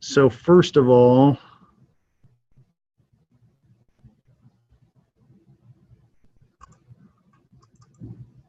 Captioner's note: silence